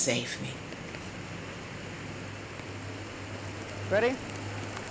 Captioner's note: rain